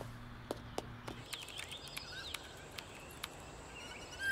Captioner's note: Typing